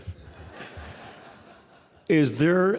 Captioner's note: audience laughing